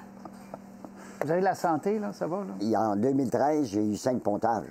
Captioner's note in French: rire